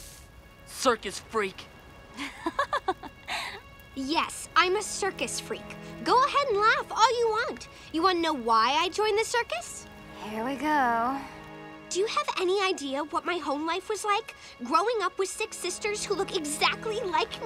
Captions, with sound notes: Circus freak! [laughing] Yes, I'm a circus freak! Go ahead and laugh all you want! You wanna know why I joined the circus? Here we go. Do you have any idea what my home life was like, growing up with six sisters who look exactly like me?!